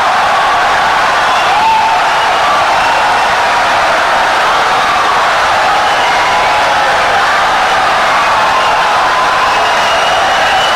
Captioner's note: wild applause and cheering for 17 seconds